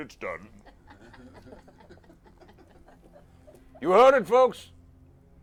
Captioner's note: laughter